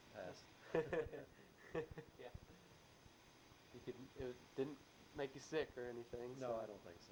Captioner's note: both laugh